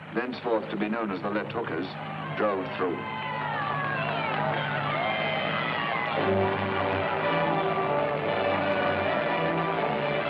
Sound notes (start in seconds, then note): 3.2 people cheering; 7.0 triumphant music